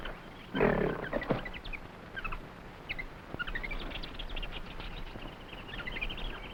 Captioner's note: animals chattering; gorilla groaning